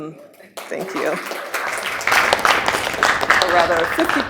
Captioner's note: applause